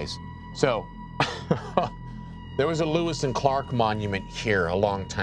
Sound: laughs

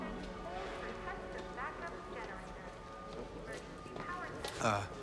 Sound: muffled PA sounds

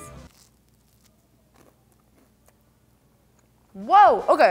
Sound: bites into toast

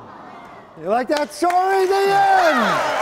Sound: audience clapping

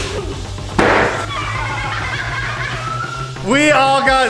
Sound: all laughing

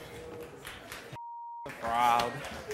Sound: applause

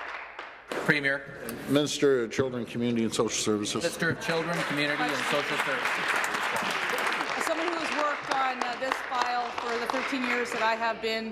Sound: some Applause

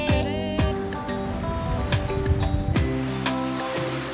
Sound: humming

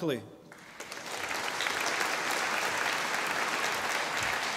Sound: audience applauding

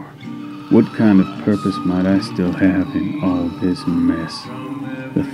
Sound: creature Shrieks

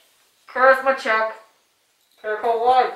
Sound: from phone

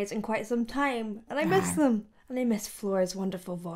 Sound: tiny roar

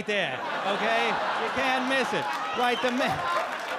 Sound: audience laugh; audience applaud

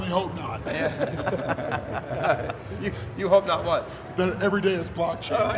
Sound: laughing

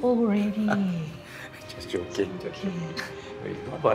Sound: laughs

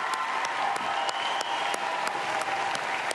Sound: applause

